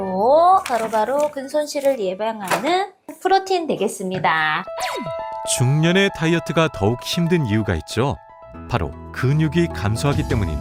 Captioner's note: voiceover